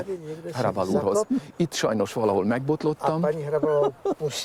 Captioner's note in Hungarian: nevet